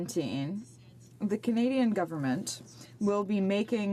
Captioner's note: speaking in French